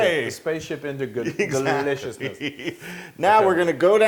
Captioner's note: laugh